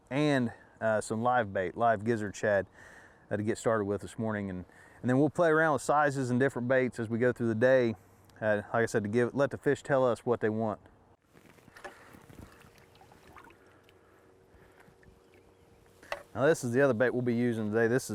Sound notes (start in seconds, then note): 11.8 water dripping